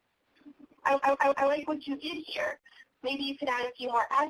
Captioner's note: voiceover